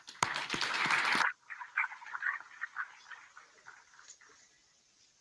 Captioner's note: applause